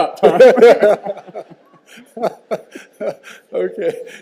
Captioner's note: all continue laughing